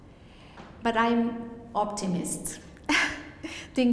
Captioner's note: laughs